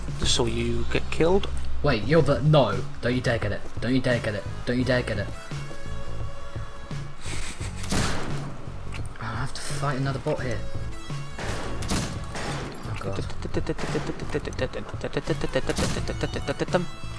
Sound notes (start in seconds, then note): 7.8 gunshot; 11.4 dramatic gunfire